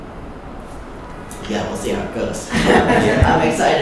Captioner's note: laughing